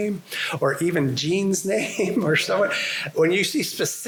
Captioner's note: laughter